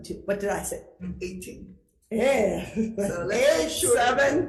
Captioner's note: laughing